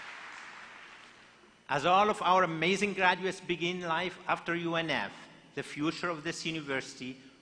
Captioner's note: applause